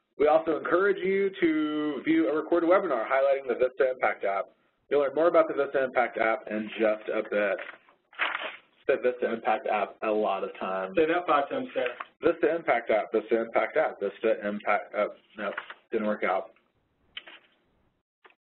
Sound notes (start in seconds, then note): 8.9 voiceover